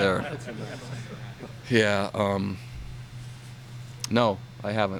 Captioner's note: laughter